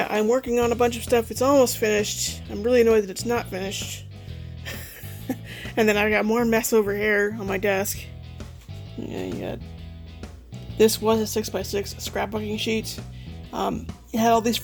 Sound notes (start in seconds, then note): 4.6 laughing